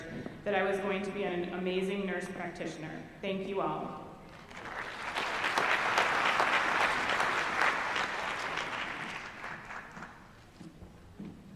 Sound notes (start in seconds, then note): 4.3 applause